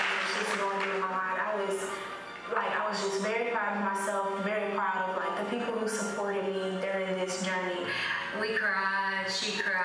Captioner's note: applause